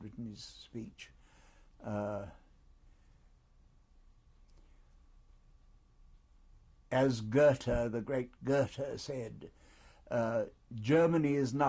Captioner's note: pauses for 6 seconds